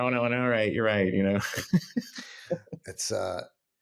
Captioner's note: chuckles